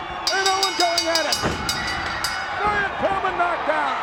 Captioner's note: bell ringing